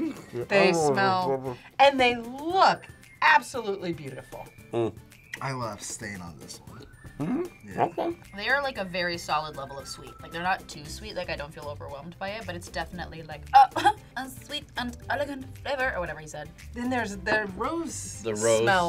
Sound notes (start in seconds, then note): 13.8 laughs